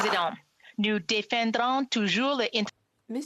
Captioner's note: applause